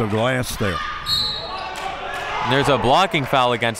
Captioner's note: referee blows whistle